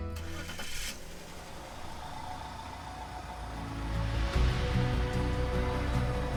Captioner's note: vehicle engine whirring; upbeat music